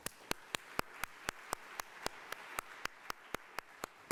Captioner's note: audience claps